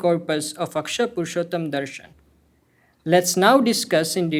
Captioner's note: hindi